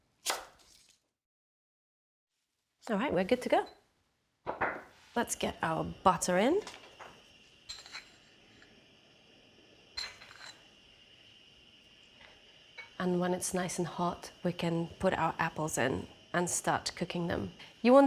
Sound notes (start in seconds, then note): none